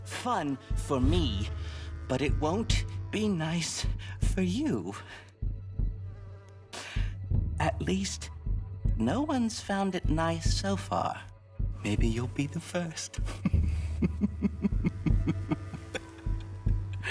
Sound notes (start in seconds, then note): 11.2 laughs